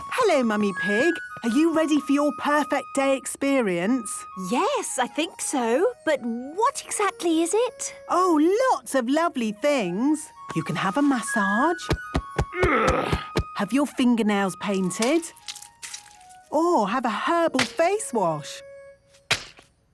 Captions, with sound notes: - Hello, Mummy Pig. Are you ready for your 'Perfect Day' experience? - Yes, I think so... But what exactly is it? - Oh, lots of lovely things! You can have a massage... - (thumping) - (moaning) - Have your fingernails painted... Or have a herbal face wash!